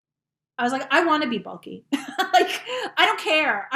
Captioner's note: chuckling